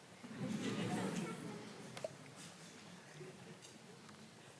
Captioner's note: audience laughing